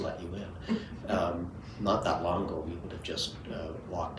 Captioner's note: chuckles